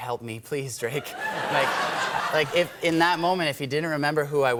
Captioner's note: laughter